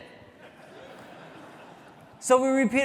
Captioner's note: audience laughing